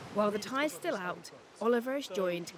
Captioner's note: waves crashing